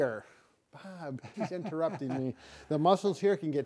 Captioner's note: laughing